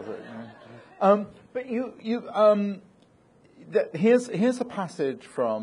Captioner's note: audience laughing